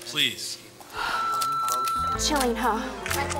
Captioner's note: gasps; recorder beeps